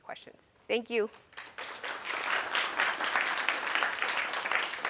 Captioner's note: applause